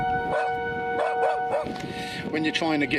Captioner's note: dog barks